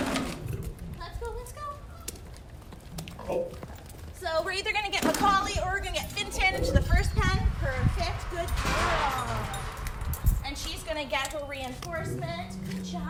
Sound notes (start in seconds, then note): 0.0 lion growl; 6.3 lion growl; 8.5 shift door closing; 11.8 low lion growl